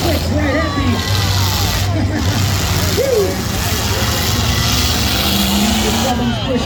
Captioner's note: engines rev